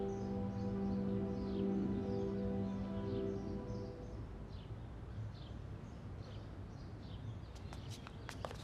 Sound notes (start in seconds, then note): 0.0 birds chirping